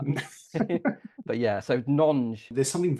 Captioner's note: both laugh